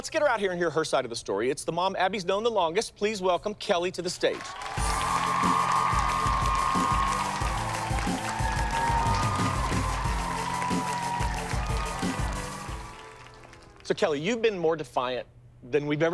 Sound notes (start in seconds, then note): 4.4 cheers and applause